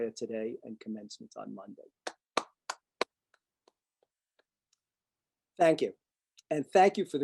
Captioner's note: applause